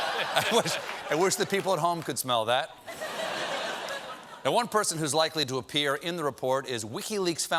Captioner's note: laughter